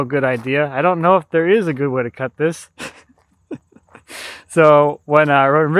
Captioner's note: laughing